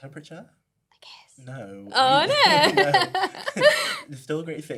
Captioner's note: laughter